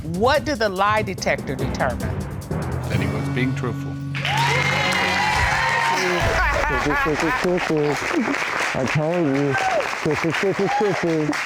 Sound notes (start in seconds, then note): 5.8 muffled voice; 6.2 laughing